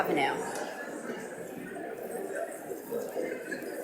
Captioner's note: audience mumbling